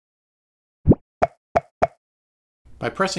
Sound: coconut Sound Effects

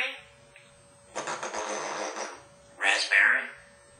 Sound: pffffffffffff sound

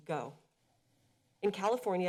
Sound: pause

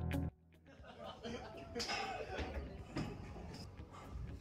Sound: laughing

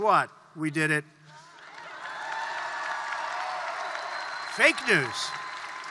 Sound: applause

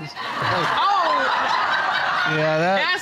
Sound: audience laughing

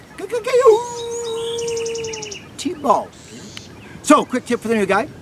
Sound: coyote Howl

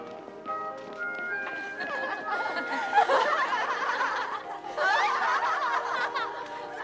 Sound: laughter

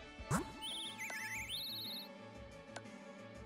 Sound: bird tweets

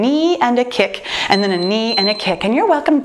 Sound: timer beeping

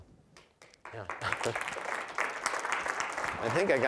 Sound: applause

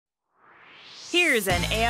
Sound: swoosh

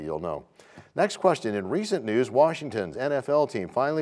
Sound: none

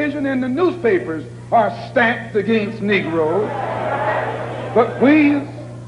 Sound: crowd concurs

